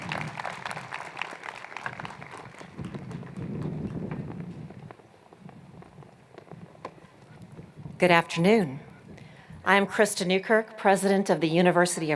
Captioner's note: applause